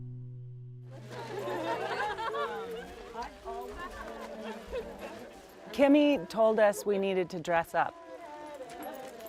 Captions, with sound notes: (laughing) - Kimi told us we needed to dress up.